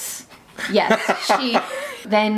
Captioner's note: laughing